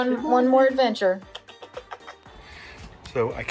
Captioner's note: kisses